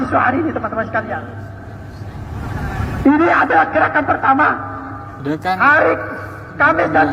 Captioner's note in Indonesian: tertawa